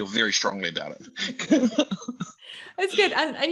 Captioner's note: all laughing